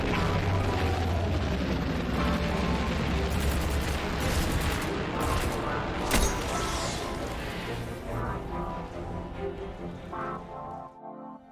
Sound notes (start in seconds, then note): 0.4 dramatic music; 4.1 gun blasting